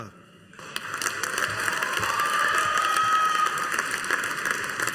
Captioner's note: audience applauding